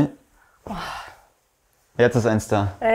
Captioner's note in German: Angespanntes Seufzen